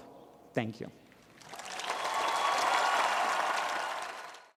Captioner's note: cheering and applause